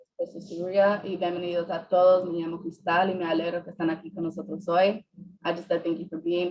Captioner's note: speaking Spanish